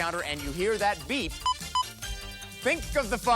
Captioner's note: beeps